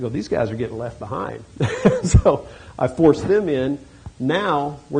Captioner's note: chuckles